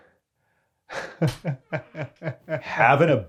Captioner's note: laughs